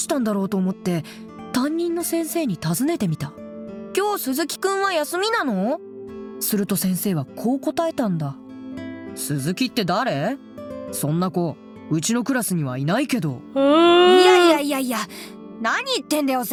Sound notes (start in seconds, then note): 13.6 groans